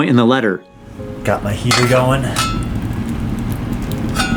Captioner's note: metal clanking